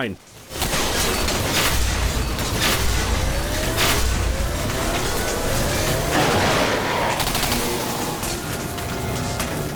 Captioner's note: a cacophony of the TMD, the electric frence, the mutated monsters and gunfire